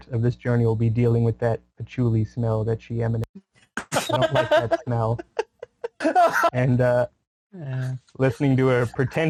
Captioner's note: laughter